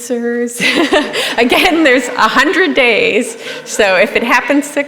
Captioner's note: laughter